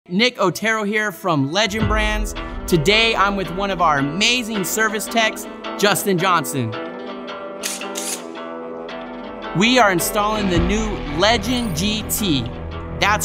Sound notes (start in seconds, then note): 7.6 tool buzzes